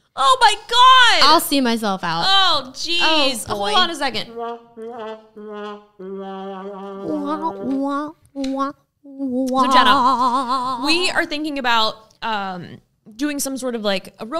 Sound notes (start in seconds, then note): 3.6 mocking sound; 7.1 mouth mocking sound